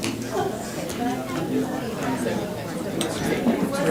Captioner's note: crowd talking indistinctly